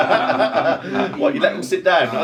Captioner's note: both laughing